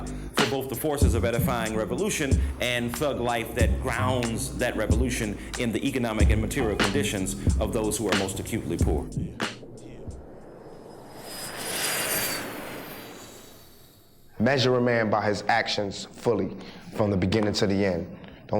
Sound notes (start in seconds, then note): 11.7 jet engine roars